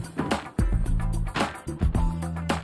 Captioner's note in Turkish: Kapama sesi